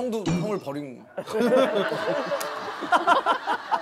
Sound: laughing

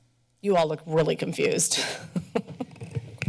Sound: laughs

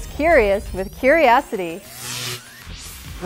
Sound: sound Effects

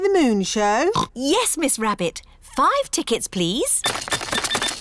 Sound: oinks

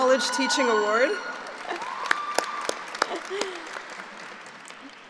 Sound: applauding

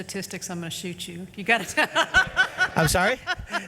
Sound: laughs

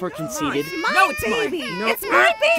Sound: baby crying

